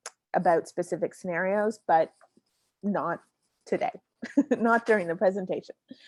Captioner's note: laughs